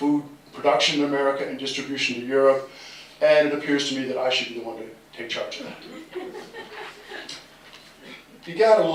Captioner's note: laughter